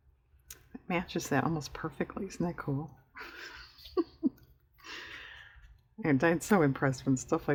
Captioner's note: laughs